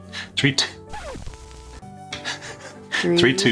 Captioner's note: record scratching